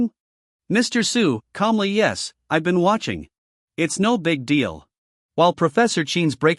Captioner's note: calmly